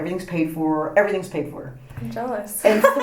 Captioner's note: laughs